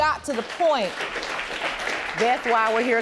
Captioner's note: audience applauding